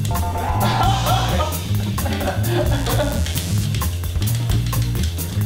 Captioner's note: weak laughter